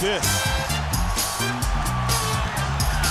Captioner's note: crowd cheering